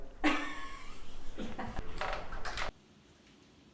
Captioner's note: laughter